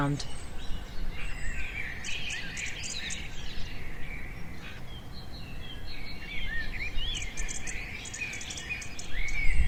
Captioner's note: forest birds